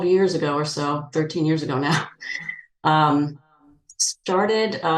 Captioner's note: chuckling